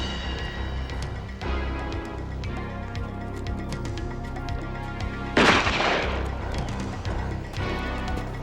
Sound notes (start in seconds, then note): 5.4 gun firing